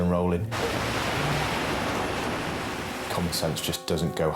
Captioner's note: water sloshing